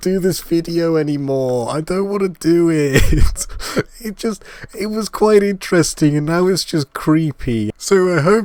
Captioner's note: laugh